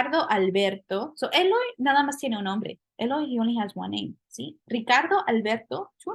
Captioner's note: spanish